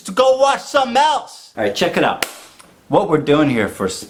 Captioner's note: claps